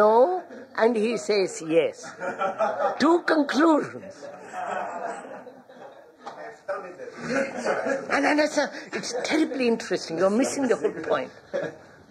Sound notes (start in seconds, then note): 3.9 laughter